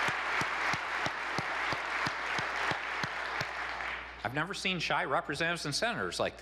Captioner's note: applause